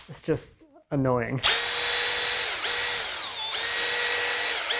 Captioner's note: drill whirring